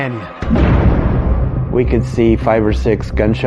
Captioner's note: suspenseful music; gunfire blasting